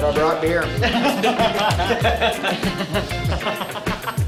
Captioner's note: laughing